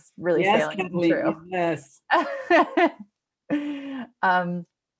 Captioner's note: laughs